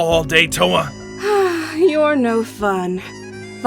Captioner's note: sighs